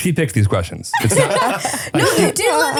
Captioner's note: both laughing